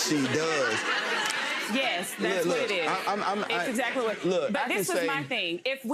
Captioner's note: audience laughs